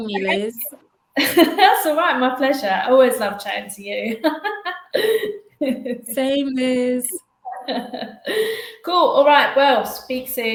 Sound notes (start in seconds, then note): 4.0 laughs